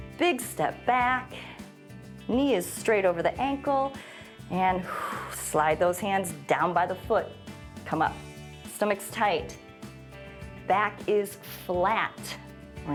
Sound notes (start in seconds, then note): 3.9 exhales